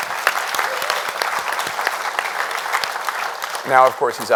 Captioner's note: audience applauding